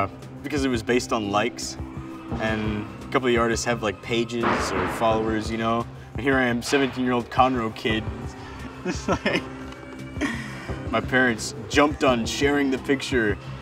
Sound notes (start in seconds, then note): 8.5 laughs